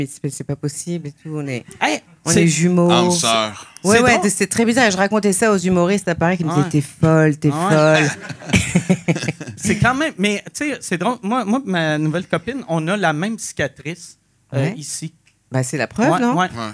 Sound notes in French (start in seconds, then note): 7.8 rires